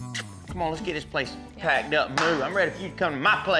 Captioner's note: claps hands